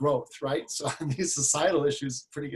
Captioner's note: laughs